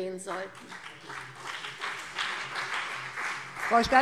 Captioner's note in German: Beifall CDU und BÜNDNIS 90/DIE GRÜNEN